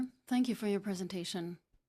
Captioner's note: speaking French